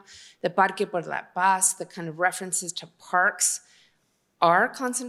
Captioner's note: non-english